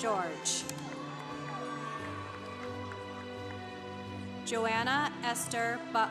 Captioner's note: congregation applauding